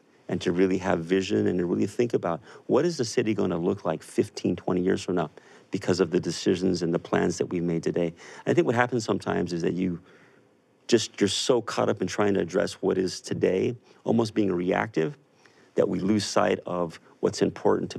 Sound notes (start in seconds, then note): none